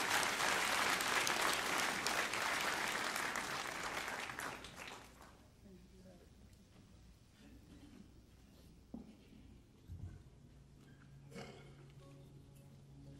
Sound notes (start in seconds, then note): 2.0 applause